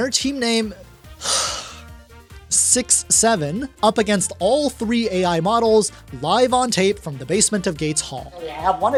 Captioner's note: sigh